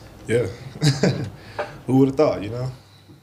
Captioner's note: chuckles